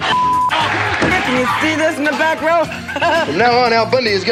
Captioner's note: laughs